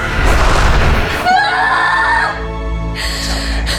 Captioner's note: screams; sobs